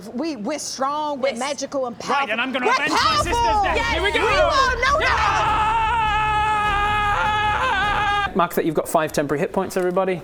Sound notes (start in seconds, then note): 5.4 idiot says ahhhhhhhhhh!